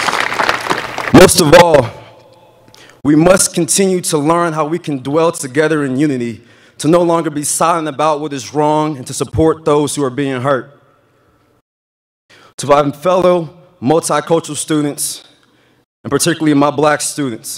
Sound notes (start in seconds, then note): 0.0 applause